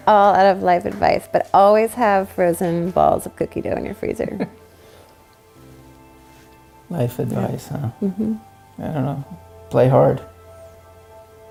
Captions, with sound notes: - Oh, I don't have life advise, but always have frozen balls of cookie dough in your freezer. - (laughs) Life advise, huh? - Mmhmm. - I don't know. Play hard.